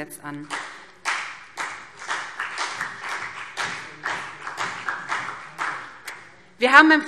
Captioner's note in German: Beifall BÜNDNIS 90/DIE GRÜNEN und CDU